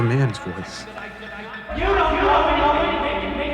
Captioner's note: echoing